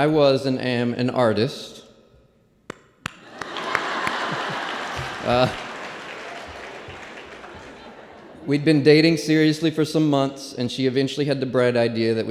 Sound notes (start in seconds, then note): 3.2 applause and laughter